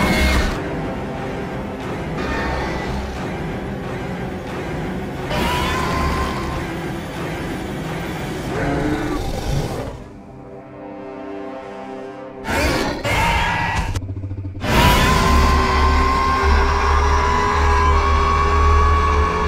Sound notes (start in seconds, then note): 1.0 Scorpius Screeching and Roaring